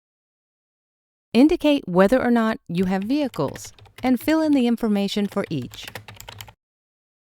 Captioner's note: typing